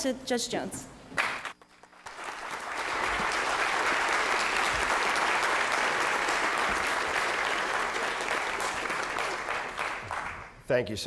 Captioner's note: applause